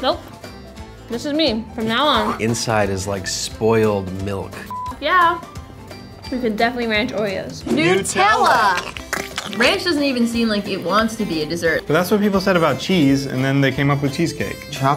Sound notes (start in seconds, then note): 7.9 voiceover; 8.3 squirting